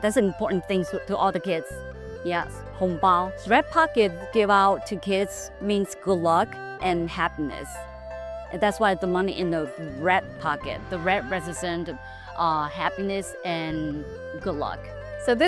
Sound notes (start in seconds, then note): 2.5 speaking Mandarin